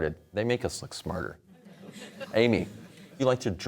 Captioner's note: audience laughter